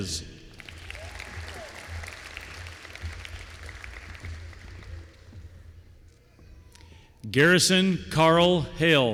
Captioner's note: applause